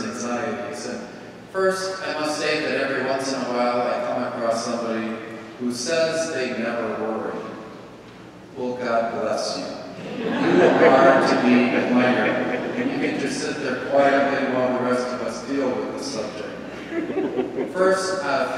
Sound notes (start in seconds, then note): 9.9 congregation laughing; 16.4 congregation laughing